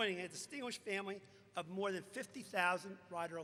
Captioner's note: none